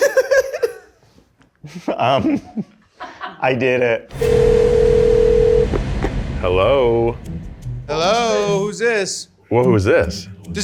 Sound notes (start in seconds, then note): 0.0 laughs; 4.1 phone ringing